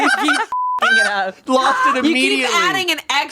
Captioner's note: everyone laughs; beep